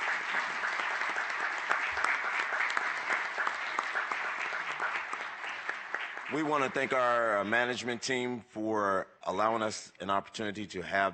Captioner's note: applause